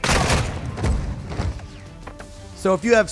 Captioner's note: gunshots